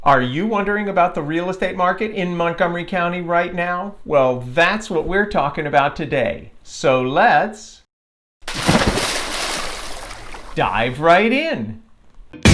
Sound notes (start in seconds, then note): 8.4 splashing